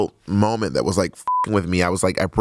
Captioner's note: beep